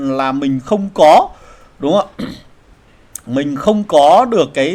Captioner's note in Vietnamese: hắng giọng